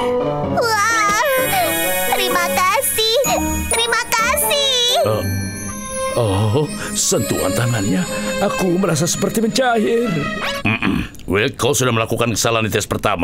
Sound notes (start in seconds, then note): 5.0 Mr. Bread moans